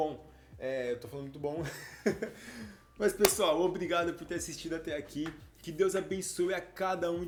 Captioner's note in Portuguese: risadas